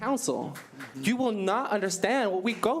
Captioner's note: applause